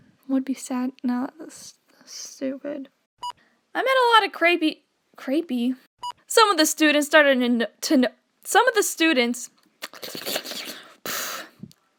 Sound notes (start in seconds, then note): 9.8 slurping